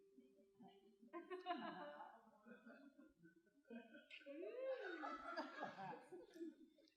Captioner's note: laughter